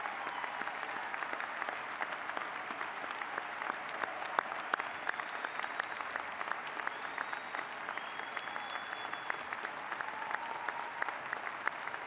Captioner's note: applause